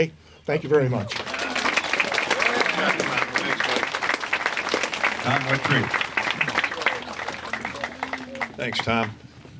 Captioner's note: applause